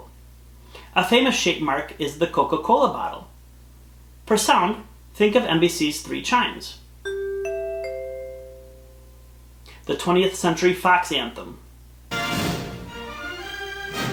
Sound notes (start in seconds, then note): 7.0 3 chimes signifying NBC plays